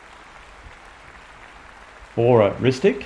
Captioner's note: applause continues